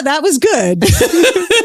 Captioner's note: laughs